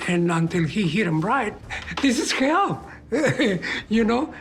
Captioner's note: chuckles